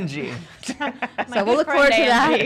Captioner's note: laughing